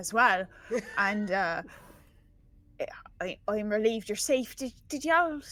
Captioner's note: chuckles